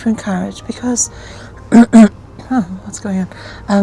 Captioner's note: clearing throat